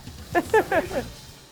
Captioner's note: laughs